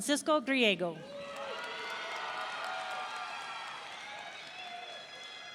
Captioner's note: audience cheering